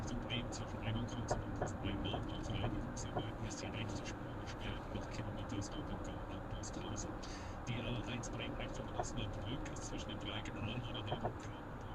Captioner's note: traffic information in German